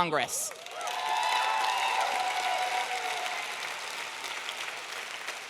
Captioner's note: audience clapping and cheering